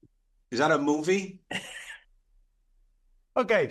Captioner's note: laughing